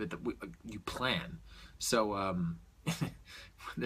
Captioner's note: chuckles